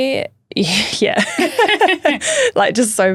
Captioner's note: both laughing